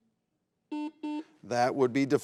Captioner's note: buzzer beeps